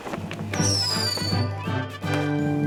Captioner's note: sparklers whistling